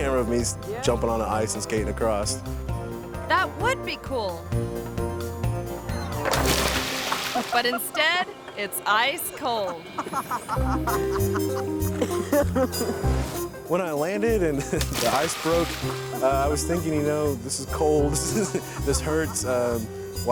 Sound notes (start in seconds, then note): 6.1 water splashes; 9.6 person laughing